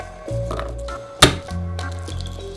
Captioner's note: knife smashing garlic